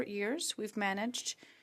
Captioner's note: speaking French